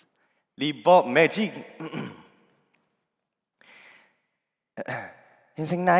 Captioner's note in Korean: 목을 가다듬음